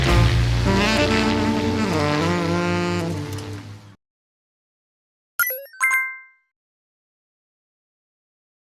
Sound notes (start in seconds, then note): 5.4 logo chiming